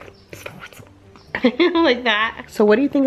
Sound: laughs

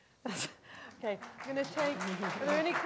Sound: audience applauding

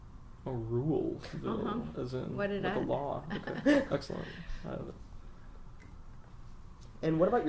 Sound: laughs

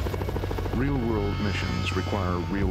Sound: voiceover

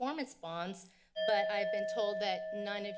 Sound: bell ring

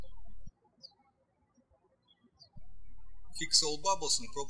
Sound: birds chirping

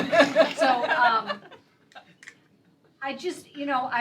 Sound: laughter

